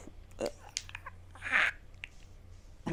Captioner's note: gently yells